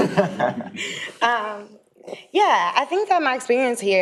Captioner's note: people laughing